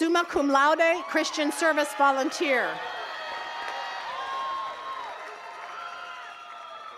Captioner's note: attendees cheers and claps